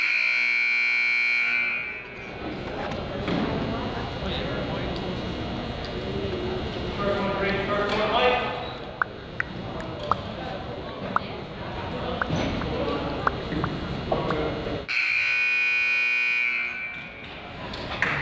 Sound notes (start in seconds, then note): 0.0 buzzer honks; 7.2 referee yells; 14.9 buzzer honks